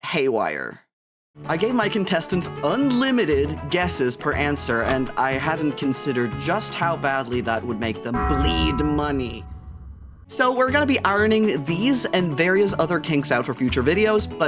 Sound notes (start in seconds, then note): none